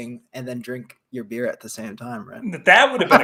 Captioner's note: laughs